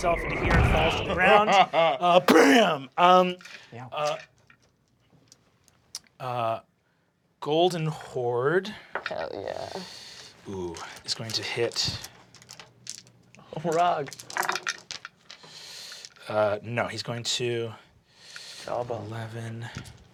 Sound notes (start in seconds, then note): 2.2 laughing; 11.6 dice clattering